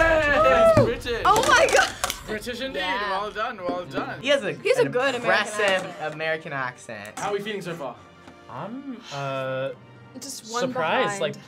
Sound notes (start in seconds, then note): 2.1 laughs